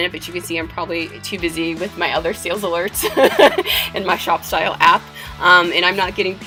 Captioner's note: laughter